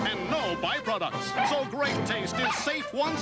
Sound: Mighty Dog barks

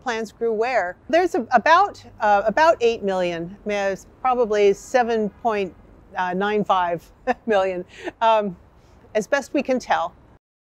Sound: laughs

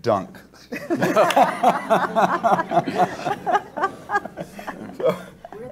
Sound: everyone laughs

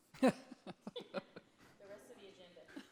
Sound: laughter

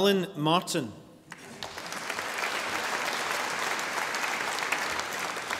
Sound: audience applauding

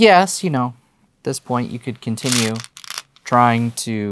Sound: stones rattling

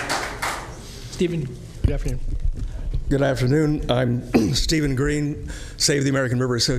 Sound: applause

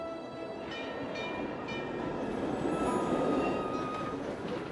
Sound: trolley bell ringing

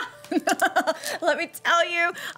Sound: chortling

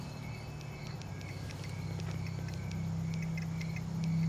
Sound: phones clicking

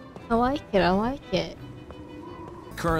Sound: none

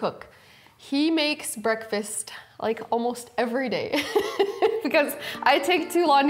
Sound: laughing

